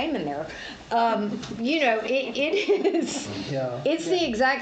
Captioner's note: laughs